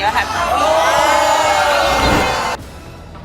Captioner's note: audience yelling